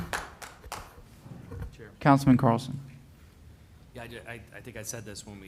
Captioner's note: applause